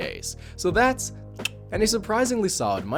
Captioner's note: click